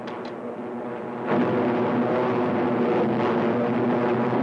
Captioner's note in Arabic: هدير محركات الطائرة